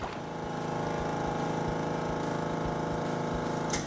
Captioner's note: motor running